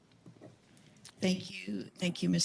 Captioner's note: speaking in French